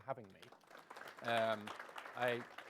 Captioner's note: applause